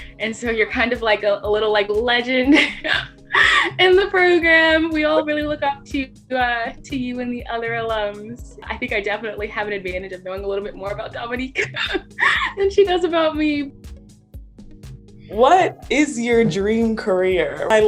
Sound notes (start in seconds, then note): 2.5 giggles; 11.5 giggles; 13.7 calm music